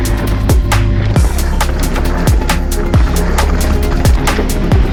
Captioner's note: gravel crunching